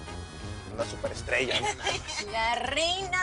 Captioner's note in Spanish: Risas